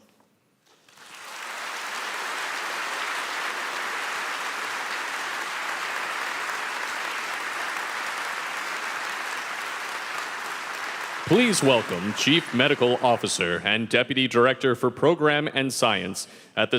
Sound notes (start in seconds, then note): 0.7 applause